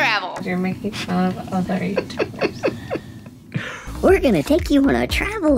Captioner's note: laughing